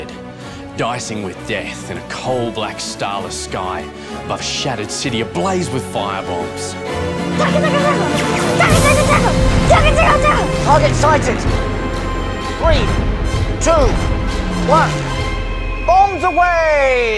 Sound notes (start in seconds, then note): 7.0 imitating gun shots